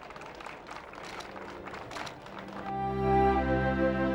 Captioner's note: applause